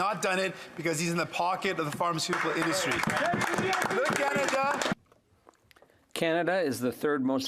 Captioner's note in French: voix de l'interprète